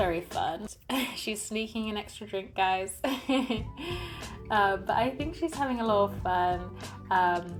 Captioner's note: laughs